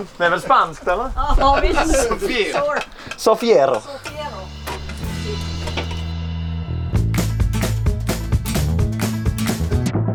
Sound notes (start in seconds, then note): 2.9 speaks with a spanish twang